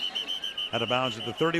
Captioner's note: whistle